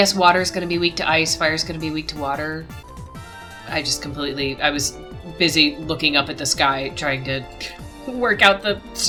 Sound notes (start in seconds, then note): 8.0 laughs